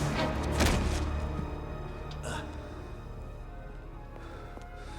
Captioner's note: Gammon thuds; somber music